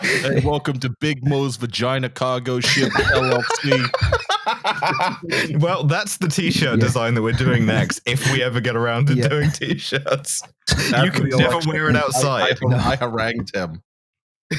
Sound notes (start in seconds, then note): 4.5 laughter